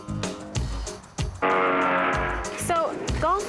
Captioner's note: engine rring